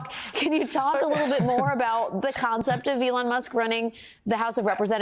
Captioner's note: laughter